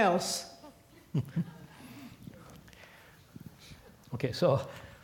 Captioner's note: laugh